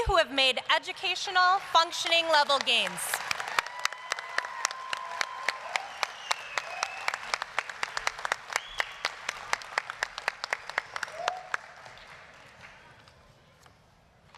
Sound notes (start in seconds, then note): 3.8 applause, cheering